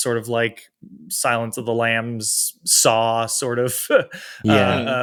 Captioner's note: chuckles